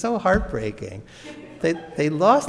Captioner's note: audience laughs